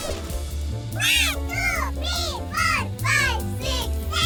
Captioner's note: computer Voice